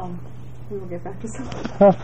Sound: laugh

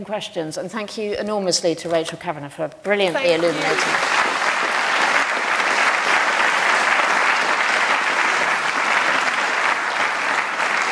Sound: applause

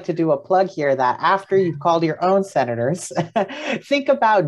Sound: laughs

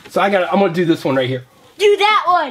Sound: voiceover

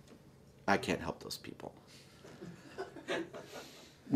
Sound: laughter

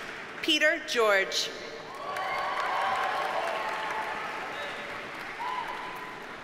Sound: audience cheers and applauds

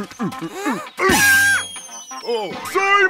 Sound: screaming

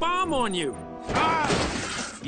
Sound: grunts

